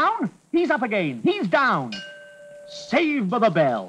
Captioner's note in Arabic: يرن الجرس